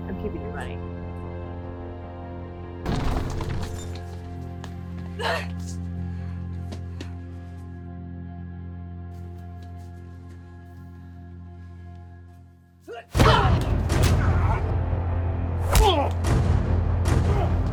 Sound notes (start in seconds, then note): 2.9 clattering; 5.2 grunting; 13.1 grunting; 13.1 smacking